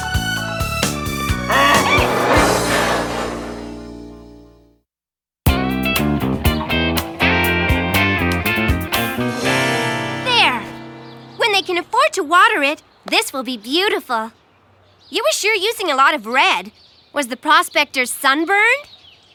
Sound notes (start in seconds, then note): 1.3 braying